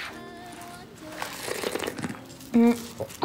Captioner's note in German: Schlürfen